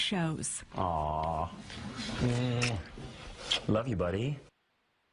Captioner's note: voiceover